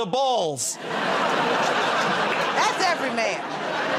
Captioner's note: laughter